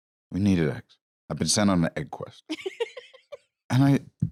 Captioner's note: laughs